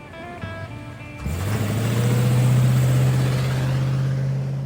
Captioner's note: engine rumbling